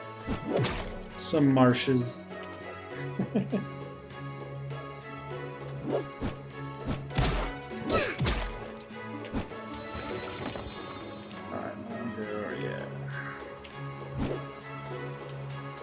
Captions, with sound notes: Some marshes. [laughs] All right, I'm gonna go... yeah.